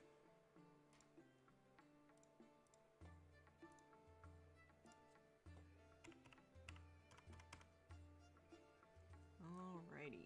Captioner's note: mouse and keyboard clicking